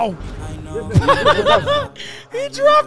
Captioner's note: laughing